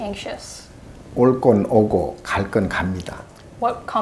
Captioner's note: speaking Korean